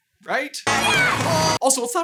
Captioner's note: cheers